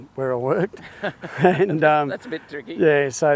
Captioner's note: laughs